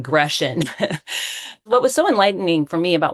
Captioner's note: chuckling